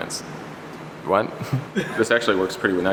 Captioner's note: giggle